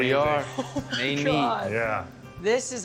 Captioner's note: laughing